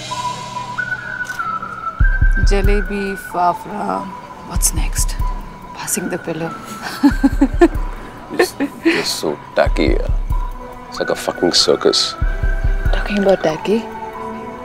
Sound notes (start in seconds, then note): 6.6 Giggling